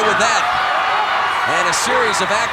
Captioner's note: audience cheering